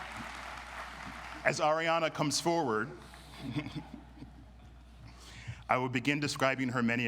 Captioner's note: chuckles